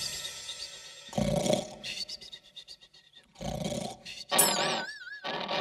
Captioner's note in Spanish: Sonido de ronquidos; Sonido de madera